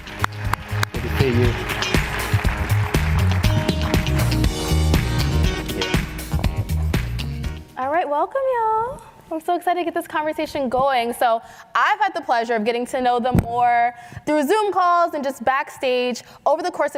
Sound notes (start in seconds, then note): 0.0 applause